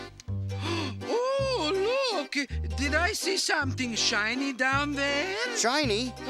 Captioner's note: gentle upbeat music; gasps